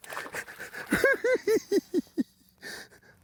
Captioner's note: cackling